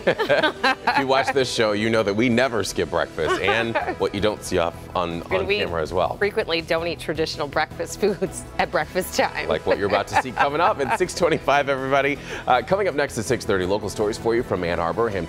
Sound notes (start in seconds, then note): 3.2 laughter